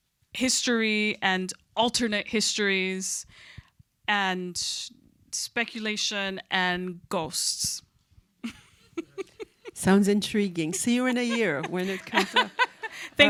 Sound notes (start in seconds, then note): 8.4 chuckles